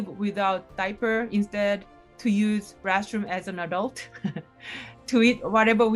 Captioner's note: chuckles